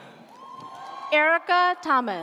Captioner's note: audience cheers